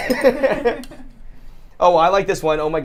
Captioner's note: laughter